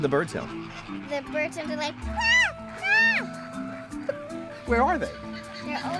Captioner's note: cawing